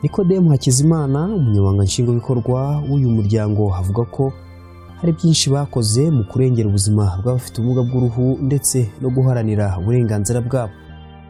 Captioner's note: speaking in Kinyarwanda